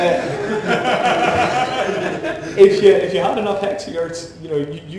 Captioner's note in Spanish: risas